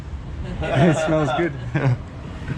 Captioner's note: and pedestrian laughing